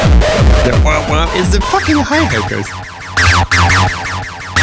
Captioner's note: wop wop